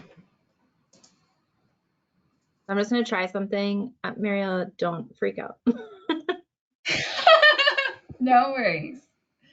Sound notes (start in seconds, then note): 0.0 mouse clicking, no audio; 5.7 both laugh